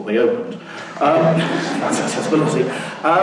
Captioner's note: laughing